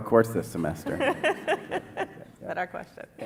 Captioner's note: laughter